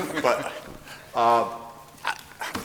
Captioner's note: laughter